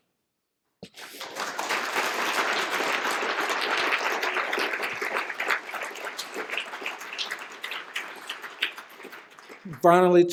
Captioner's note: applause